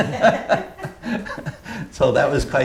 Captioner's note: laughter